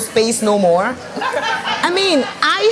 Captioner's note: laughs